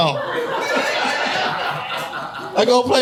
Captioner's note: audience laughing